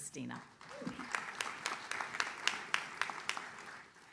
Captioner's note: audience claps